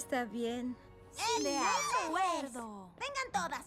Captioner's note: squeals